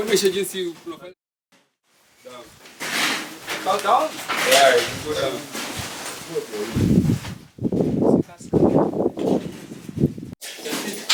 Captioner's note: speaking Swahili; talking in Swahili